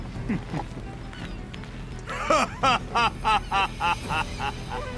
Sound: laughter

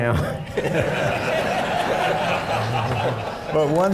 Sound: laughter

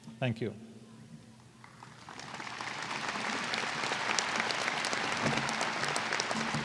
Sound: applause

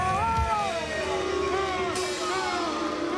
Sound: shouting; booing

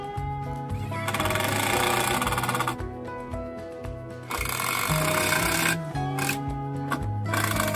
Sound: electric drill sound

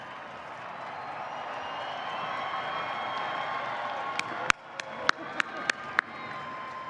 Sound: applause

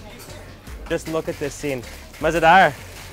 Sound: speaks in foreign language

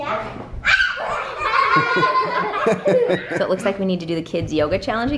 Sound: kids giggling

